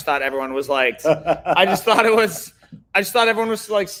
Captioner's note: laughing